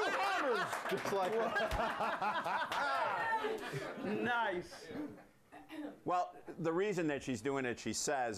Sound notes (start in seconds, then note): 5.4 audience cheers